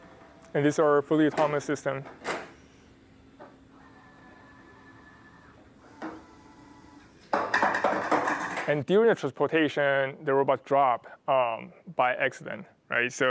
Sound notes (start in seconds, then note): 7.4 clattering